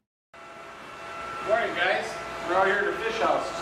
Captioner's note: narrating